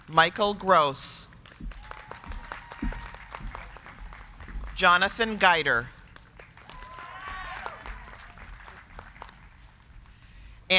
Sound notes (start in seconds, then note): 1.3 crowd clapping; 1.6 crowd cheering; 6.2 crowd clapping; 6.5 crowd cheering